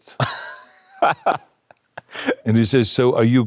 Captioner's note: Patrick laughing